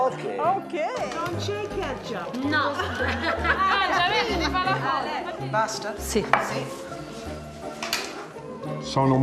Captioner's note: speaking Italian